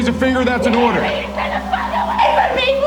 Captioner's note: woman screaming